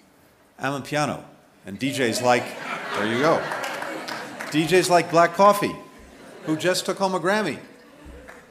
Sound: applause

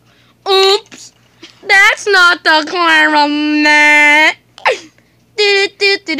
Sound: gasp

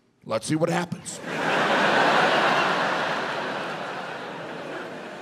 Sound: audience laughs

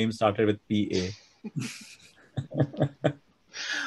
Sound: laughs

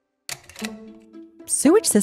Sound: clicking

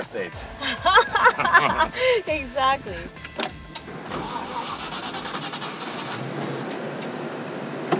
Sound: laughs

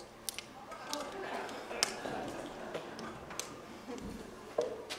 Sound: audience laughing

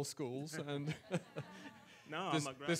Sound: audience laughs

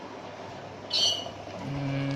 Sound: bird

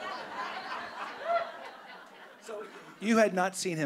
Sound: audience laughing

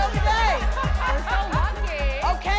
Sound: audience laughs

